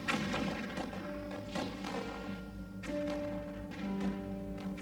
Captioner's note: gunshots blasting